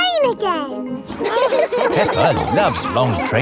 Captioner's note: laughing